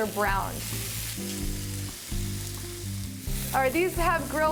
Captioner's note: sizzling